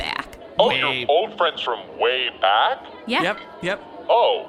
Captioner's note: still sounding sarcastic